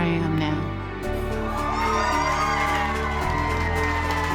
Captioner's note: cheering